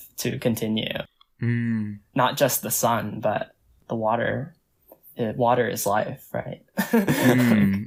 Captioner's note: laughs